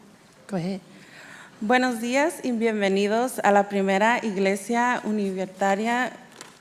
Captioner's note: speaking in Spanish